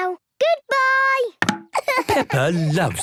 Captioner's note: laughing